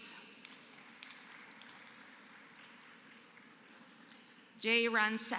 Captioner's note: applause